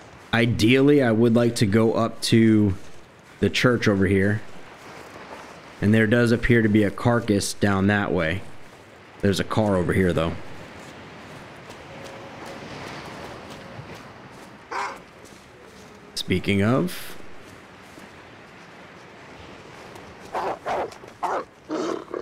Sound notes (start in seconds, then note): 11.2 running; 14.7 wolf Bark; 17.8 Wolf Barking Intensifies